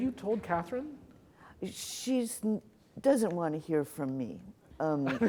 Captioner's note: laughter